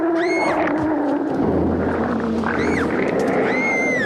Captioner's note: sea serpent roars; screaming